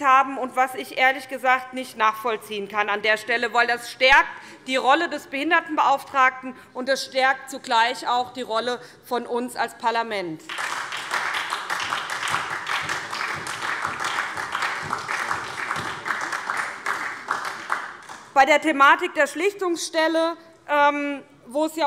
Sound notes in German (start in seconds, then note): 10.4 Beifall SPD